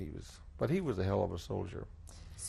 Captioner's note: none